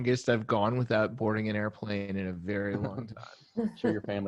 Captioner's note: laughing